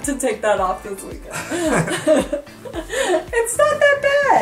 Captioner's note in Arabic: كلاهما يضحك